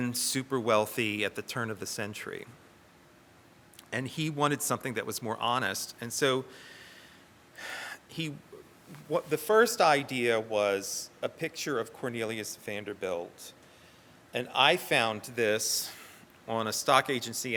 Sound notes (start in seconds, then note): none